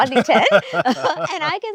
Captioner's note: laughing